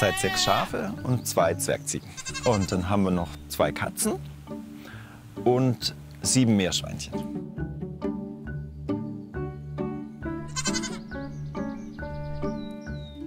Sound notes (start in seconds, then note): 8.1 playful music; 10.4 goats bleat